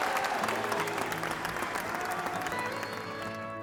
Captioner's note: audience applauding; audience cheering